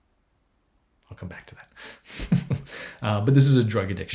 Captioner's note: chuckles